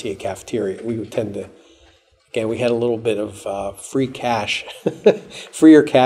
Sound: chuckles

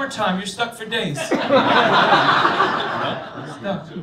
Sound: laughter

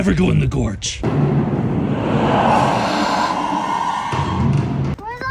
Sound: eerie winds

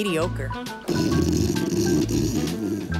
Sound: snoring

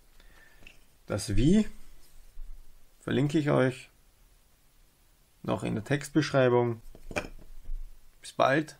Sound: in german

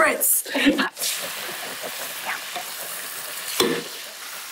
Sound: sizzling

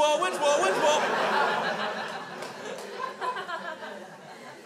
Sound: crowd laughs

